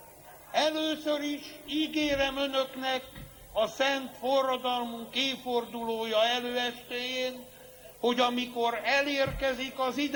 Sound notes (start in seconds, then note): none